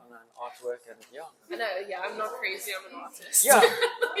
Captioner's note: laughs